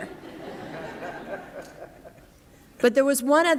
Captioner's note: laughter